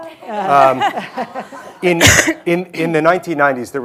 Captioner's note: everyone laughing